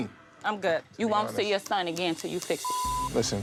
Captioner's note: beep